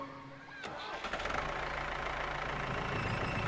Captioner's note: motor whirring